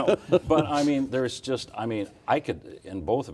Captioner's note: laughing